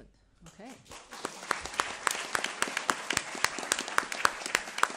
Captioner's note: attendees applauding